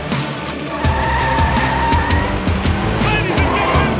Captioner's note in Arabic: تسريع المحرك; موسيقى مبهجة; صرير الإطارات